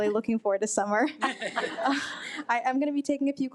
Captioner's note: attendees laugh